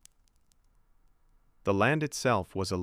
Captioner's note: sound of fire crackling and gentle wind